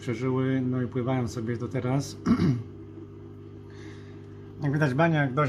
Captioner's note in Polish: kaszel